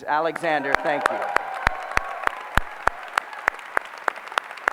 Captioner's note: applause